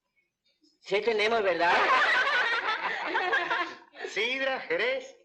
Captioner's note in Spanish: Risas